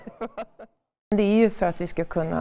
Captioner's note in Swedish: skrattar